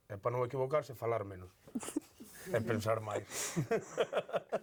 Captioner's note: laughs